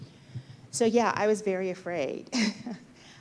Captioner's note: chuckles